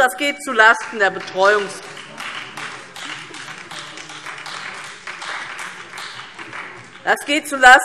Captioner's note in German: Beifall DIE LINKE, vereinzelt SPD und Freie Demokraten